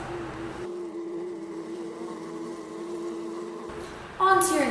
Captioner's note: bees buzzing